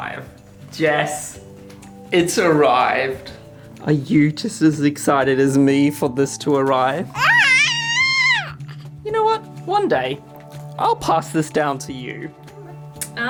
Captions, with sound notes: Jess it's arrived. Are you just as excited as me for this to arrive? (baby yelling) You know what? one day I'll pass this down to you.